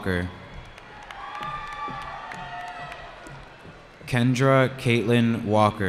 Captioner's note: cheering